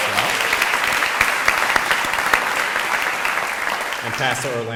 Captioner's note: audience applauding